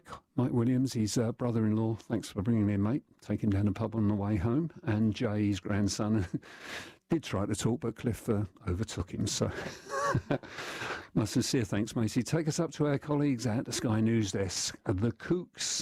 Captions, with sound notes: Mike Williams is his brother-in-law thanks for bringing him here mate. Take him down the pub on the way home. And Jays his grandson. He tried to talk but Cliff overtook him. (Laughter) My sincere thanks matey, take us up to our colleagues at the Sky News desk with